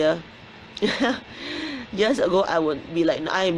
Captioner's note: laughs